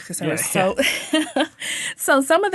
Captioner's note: laughing